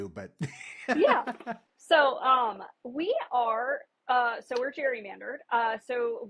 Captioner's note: laughs